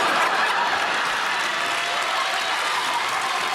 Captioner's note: laughter; cheers and applause